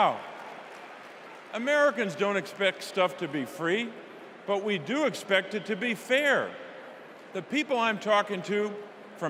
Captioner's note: applause